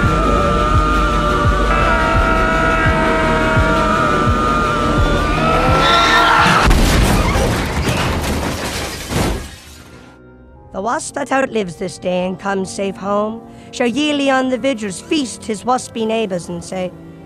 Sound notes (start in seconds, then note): 0.0 yelling in unison; 0.0 music building; 5.3 tires screeching; 6.4 loud crash; 10.0 melancholy music